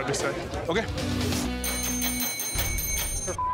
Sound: dinging

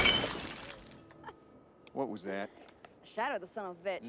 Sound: Joe chuckling

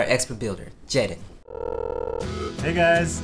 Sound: phone ringing

